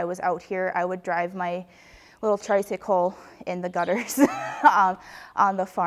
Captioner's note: laughs